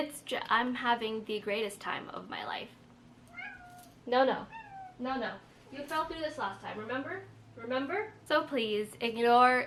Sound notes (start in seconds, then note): 3.3 meow